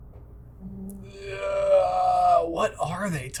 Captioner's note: groaning